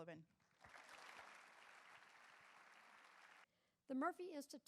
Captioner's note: audience applauds